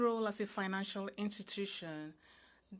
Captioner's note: speaking French